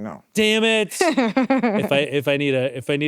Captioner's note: laughs